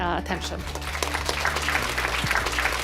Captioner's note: applause